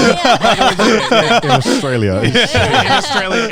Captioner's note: everyone laughing